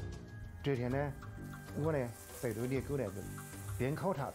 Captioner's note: in foreign language